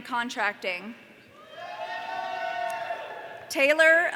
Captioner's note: audience cheering